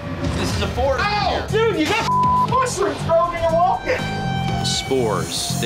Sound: beep

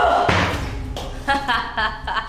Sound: laughter

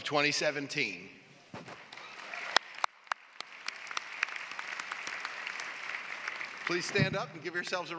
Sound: applause

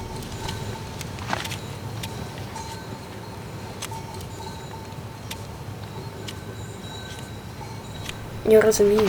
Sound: cowbell ringing from a cow’s neck

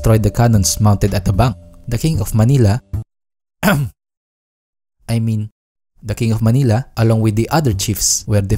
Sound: cough

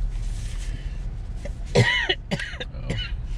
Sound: cough, cough, cough

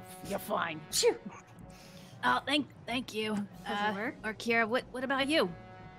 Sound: sneezes

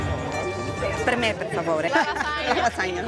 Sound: in Italian

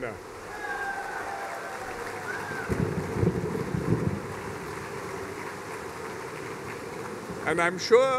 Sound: cheers and applause

